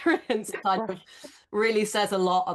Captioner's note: chuckles